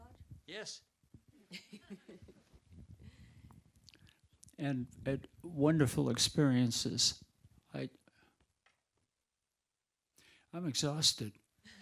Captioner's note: audience laughing